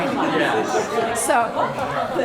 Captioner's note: laughter